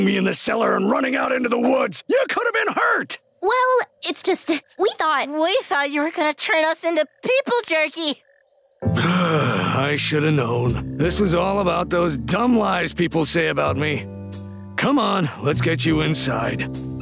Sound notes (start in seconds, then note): 8.9 sighing